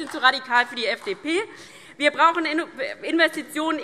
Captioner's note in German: Beifall DIE LINKE und vereinzelt BÜNDNIS 90/DIE GRÜNEN